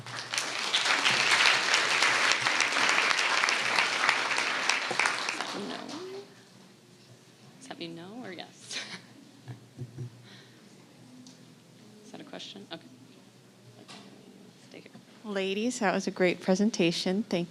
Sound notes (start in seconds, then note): 0.0 audience clapping; 8.6 chuckling